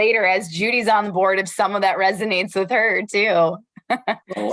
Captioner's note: laughter